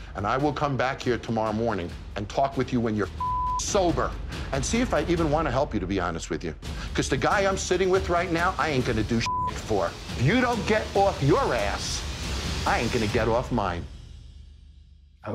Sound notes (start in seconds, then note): 3.2 beep; 9.2 beep